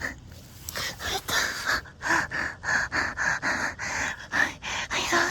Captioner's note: intense breathing